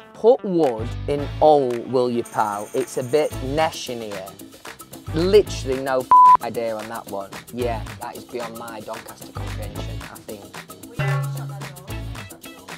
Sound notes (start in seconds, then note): 6.1 beep; 11.0 gong ding